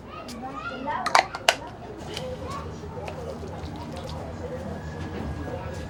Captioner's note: children shouting playfully